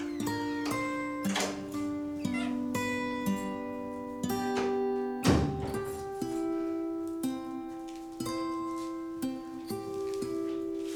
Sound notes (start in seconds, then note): 0.1 door squeaking; 5.2 door thudding; 6.1 gentle music